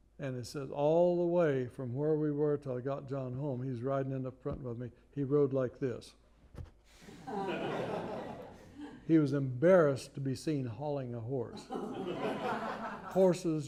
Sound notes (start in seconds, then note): 7.0 laughter